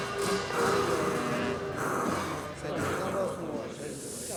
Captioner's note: monks Muttering